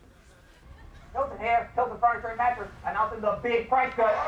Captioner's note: TV playing